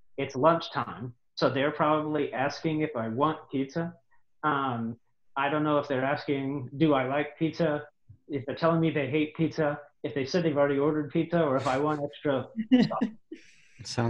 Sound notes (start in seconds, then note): 11.5 audio blurs